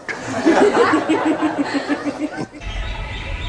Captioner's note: laughter